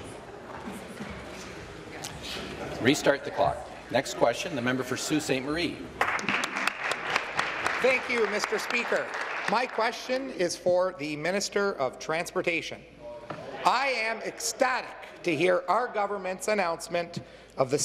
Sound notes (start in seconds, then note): 8.9 applause